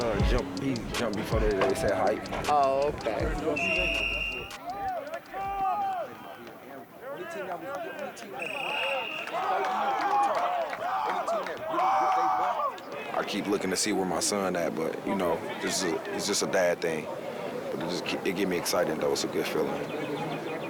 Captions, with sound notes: he jumped before they said hike. - Oh okay. (whistle blows) - There it is! There it is! (whistle blows) (team cheers) - I keep looking to see where my son at, but you know, it's just a dad thing. It gets me excited though, it's a good feeling.